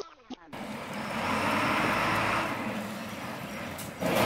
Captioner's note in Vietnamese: Tiếng động cơ phà